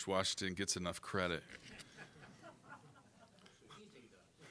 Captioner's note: audience laughing